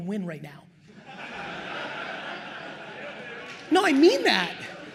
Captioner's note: attendees laugh